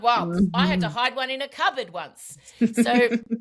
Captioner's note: laughs